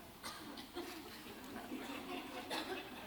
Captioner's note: laughter